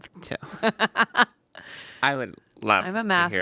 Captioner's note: laughs